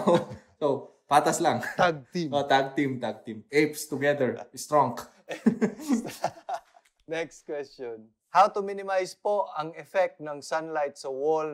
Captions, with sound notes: So it's just right. - Tag team. - Yes, tag team. Apes together stronk. (laughs) - Next question. How to minimize the effect of sunlight on the walls